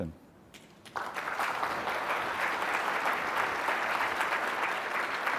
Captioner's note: audience clapping